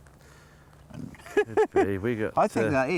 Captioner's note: laughing